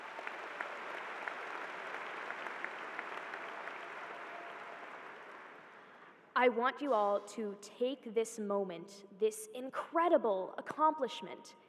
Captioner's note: applause